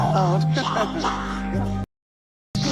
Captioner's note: laughing; snake hissing